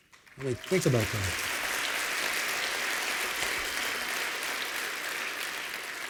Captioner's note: applause